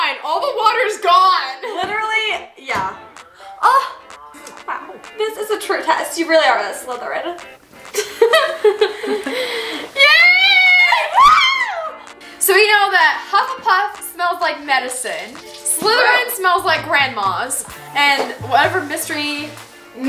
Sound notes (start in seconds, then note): 7.9 giggles